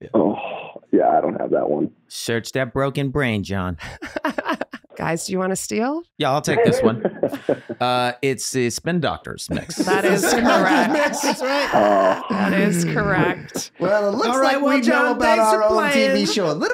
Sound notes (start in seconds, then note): 3.8 laughing; 11.9 laughing